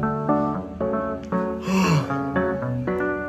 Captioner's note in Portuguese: bocejando